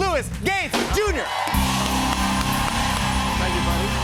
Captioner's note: cheers and applause